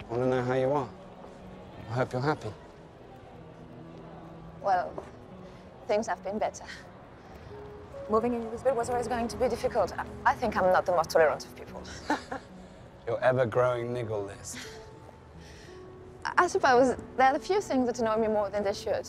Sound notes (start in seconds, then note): 11.8 Eloise laughing